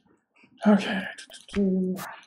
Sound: sighing

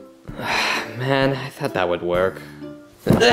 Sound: sighs

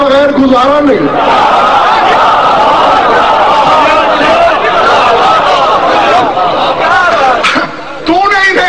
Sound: audience cheers and shouts enthusiastically

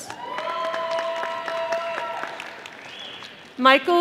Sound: audience applauding

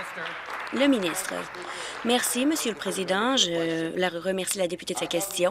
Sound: applause

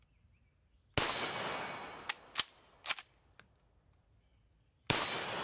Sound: gunshots booming

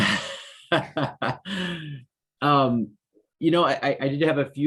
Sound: mayor laughs

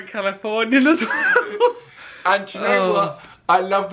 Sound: laughs

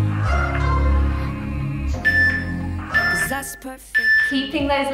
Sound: timer beeping

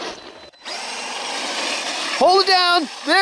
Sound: engine roaring

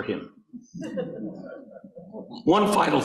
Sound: audience laughing

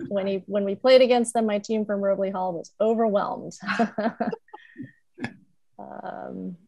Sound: chuckles

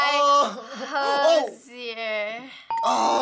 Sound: ding; groaning

